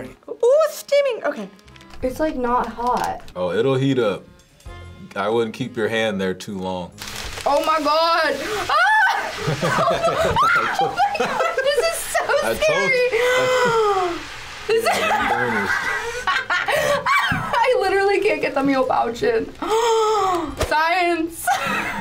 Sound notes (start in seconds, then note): 8.6 screams; 14.8 chuckles; 14.8 laughs; 19.6 gasps